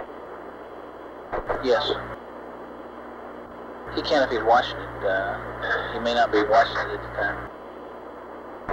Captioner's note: mission Control Audio